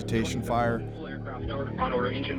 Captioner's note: radio